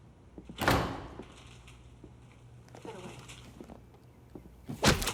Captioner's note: door creaks